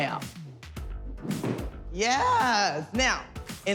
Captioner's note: thuds